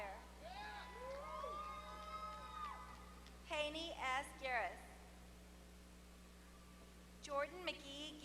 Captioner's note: applause